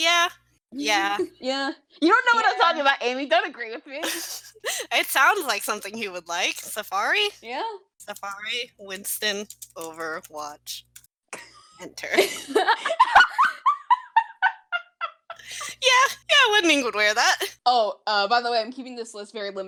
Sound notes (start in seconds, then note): 12.1 laughter